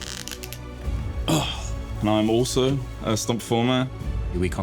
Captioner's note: sighs